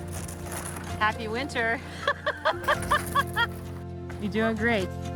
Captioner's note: laughing